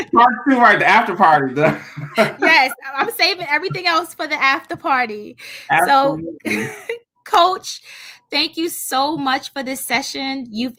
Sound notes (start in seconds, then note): 0.0 laughing; 5.7 laughs